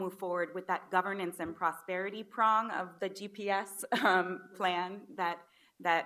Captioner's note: chuckles